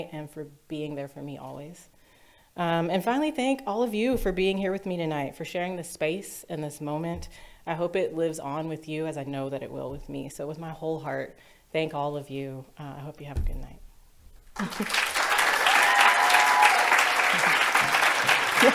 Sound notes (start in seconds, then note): 14.5 audience cheers and applauds; 14.6 chuckles